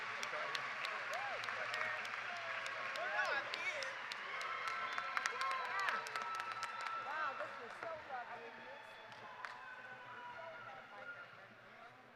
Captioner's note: cheers and applause